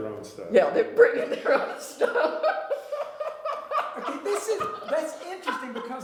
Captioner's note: laughter